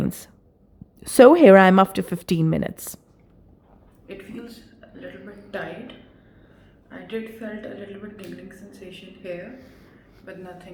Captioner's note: video talking